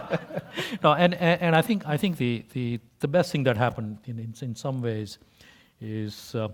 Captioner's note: laugh